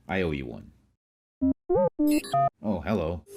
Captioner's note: medical droid beeps